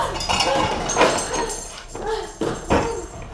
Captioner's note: lamp breaks; both grunting